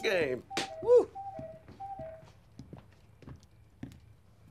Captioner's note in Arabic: رنين ساعة الوقواق